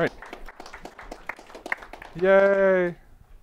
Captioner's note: applause